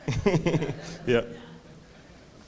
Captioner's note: laughing